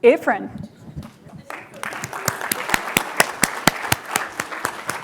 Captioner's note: applause